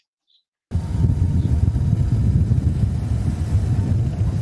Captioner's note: motor sound and wind